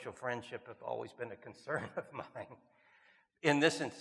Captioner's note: chuckles